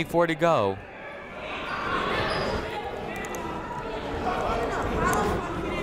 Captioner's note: people talking in the crowd